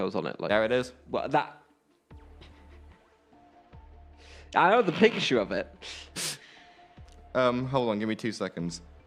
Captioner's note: laughter